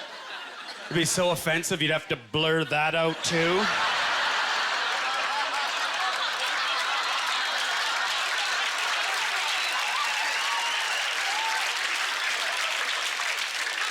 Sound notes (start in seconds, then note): 0.0 audience laughter; 2.4 audience laughter; 4.4 applause